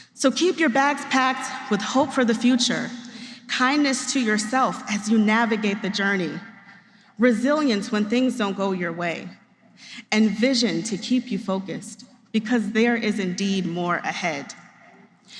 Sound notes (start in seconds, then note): none